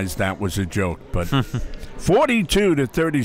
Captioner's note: laughs